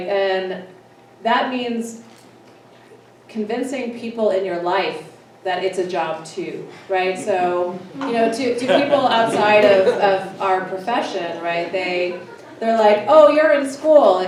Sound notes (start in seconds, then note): 8.4 scattered laughing